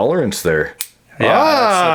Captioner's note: clicks